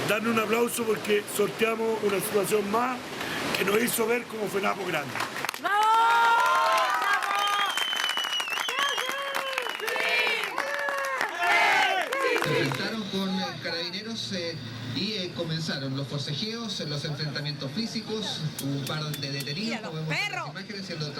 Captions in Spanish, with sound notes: darnos un aplauso porque sorteamos una situación más que nos hizo ver como FENAPO grande. [Aplausos, abucheos] Ce-hache-í-chí, Ele-é-le, chi-chi-chi... Se enfrentaron con carabineros y comenzaron los forcejeos, los enfrentamientos físicos, -un par de detenidos como muestran las imágenes -¡Mira los perros!